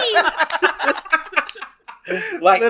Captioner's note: laughs